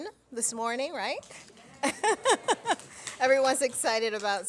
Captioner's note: laughs; audience clapping